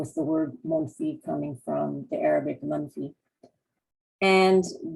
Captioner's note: non-english